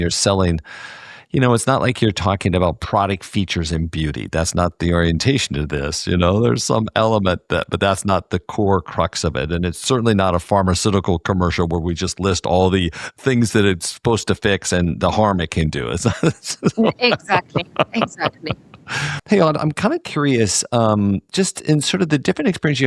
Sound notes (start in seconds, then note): 15.8 laugh